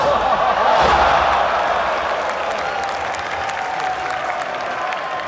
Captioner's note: crowd clapping